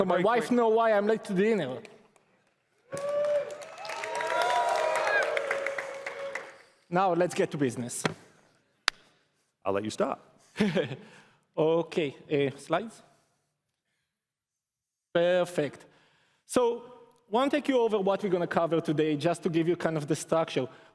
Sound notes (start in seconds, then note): 2.9 cheers and applause